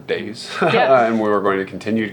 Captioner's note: laughing